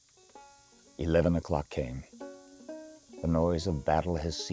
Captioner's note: voiceover